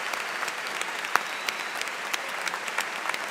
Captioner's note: cheers and Applause